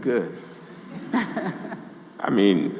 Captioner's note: audience laughing